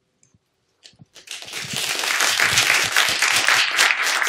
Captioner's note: applause